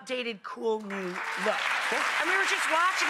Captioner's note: applauding